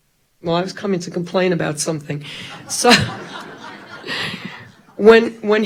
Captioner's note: all laughing